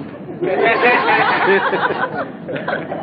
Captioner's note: gülüyor; gülüyorlar